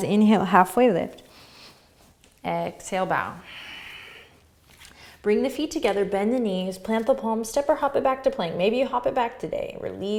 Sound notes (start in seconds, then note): 3.4 exhaling